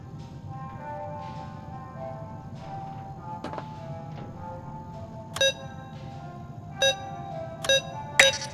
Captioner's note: beeping